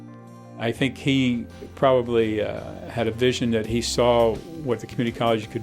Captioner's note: voiceover